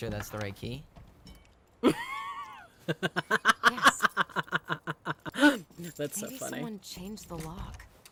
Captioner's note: laughs